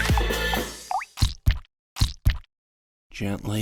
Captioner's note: cheerful music; heartbeat pounding